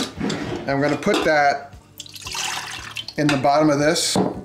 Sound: water pouring

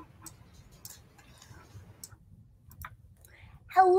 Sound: mouse clicking

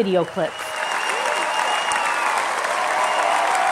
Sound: cheers and applause

